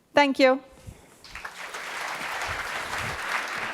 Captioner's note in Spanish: Aplausos